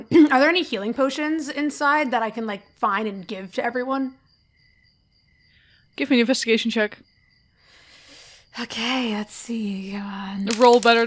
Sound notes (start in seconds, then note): 10.4 dice clacks